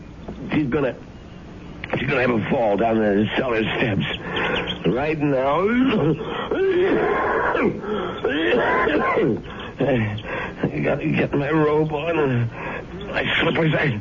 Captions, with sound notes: She's going to-- she's going to have a fall down there to sell her steps. Right now. [COUGHING] You got to get my robe on, and I slip her back.